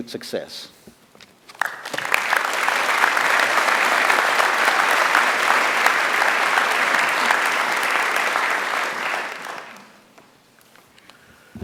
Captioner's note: applause